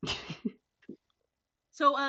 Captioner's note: laughs